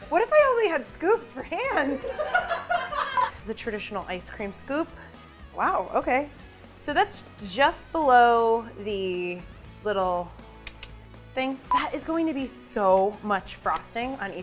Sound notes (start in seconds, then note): 2.0 laughs; 9.7 clicking noise